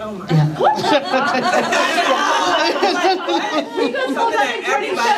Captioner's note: laughter